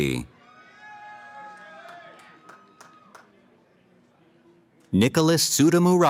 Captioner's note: cheering